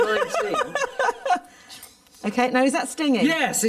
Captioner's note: laughs